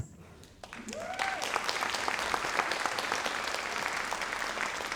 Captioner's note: audience applauds